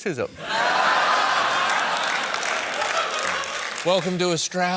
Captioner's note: laughter